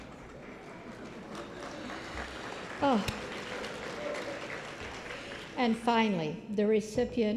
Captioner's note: applause